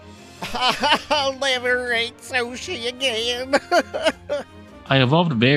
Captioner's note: cries